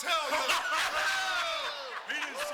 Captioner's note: Kevin and Scott chuckling